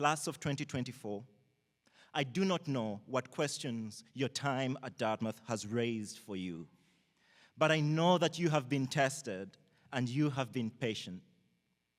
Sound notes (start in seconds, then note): none